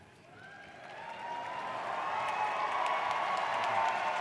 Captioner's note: cheering